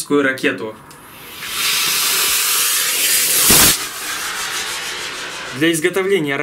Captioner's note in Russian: шипение